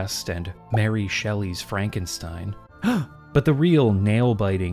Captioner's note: gasp